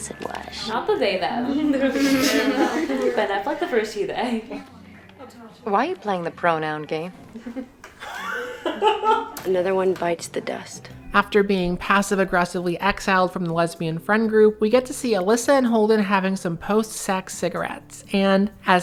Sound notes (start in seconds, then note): 1.9 laughter; 8.0 laughs